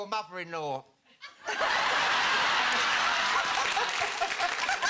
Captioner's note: audience laughing